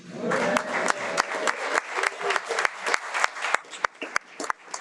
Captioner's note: audience applauding